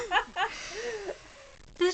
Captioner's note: laughing